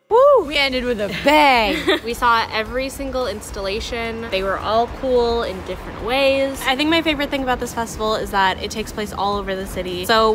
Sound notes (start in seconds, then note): 1.0 laughter